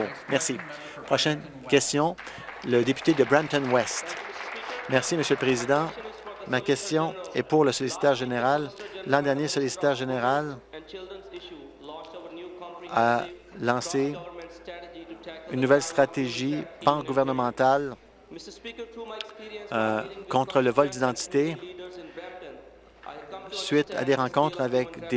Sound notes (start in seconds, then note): 0.0 applause